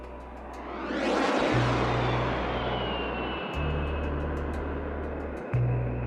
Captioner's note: plane roaring